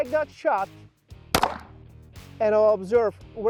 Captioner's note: gun pops